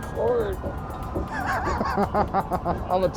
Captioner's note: laughter